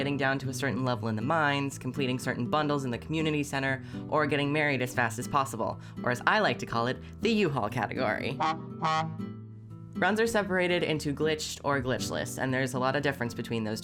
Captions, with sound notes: down to a certain level in the mines, completing certain bundles in the community center, or getting married as fast as possible. Or as I like to call it, the u-haul category! [truck honk] Runs are separated into glitched or glitchless and there's a lot of difference between those